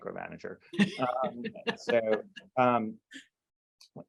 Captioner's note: laughing